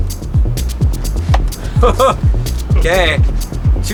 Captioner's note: laughs